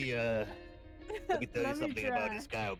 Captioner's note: laughs